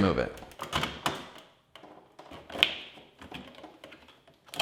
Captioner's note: plastic rattling